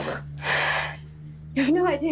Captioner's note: Margaret sighing